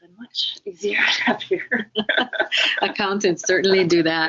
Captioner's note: laughing